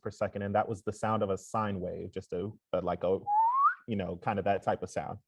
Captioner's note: whistles